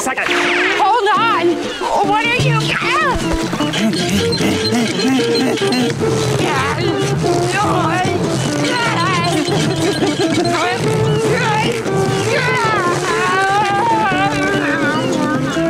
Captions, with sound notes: Hold on? What are you--Ahh! [panting] [groaning] [groaning]